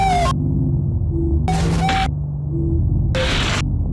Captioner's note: static crackling; soft eerie music